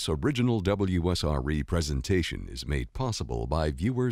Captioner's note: voiceover